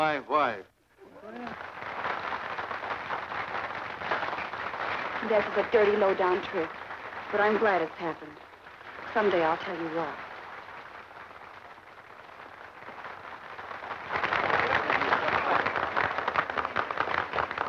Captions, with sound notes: [applause] That was a dirty, lowdown trick, but I'm glad it's happened. Someday I'll tell you why. [applause]